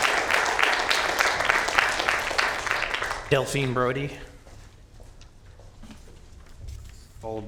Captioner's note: applause